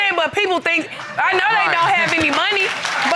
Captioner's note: laughing